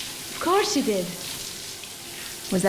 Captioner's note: water pattering